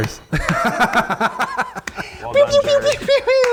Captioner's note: laughs